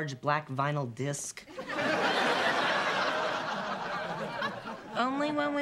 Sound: laughter

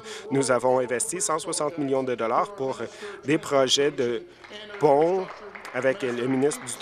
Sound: applause

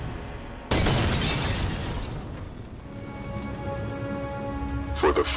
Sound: glass explodes

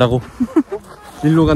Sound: laughs

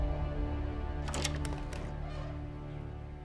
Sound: door opens

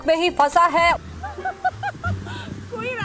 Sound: giggling

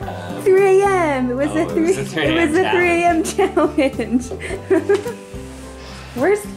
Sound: mom laughing

